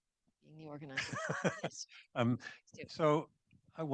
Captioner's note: laughs